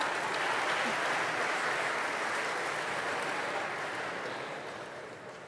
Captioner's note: laughter; applause